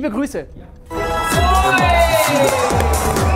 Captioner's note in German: Freudiger Ruf; Pfiffe